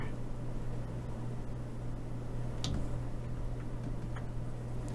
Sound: typing

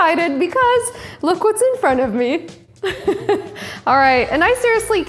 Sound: laughing

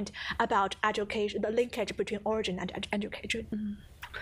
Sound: murmurs

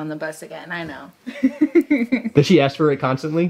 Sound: woman chuckles

